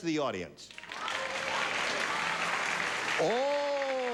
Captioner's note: applause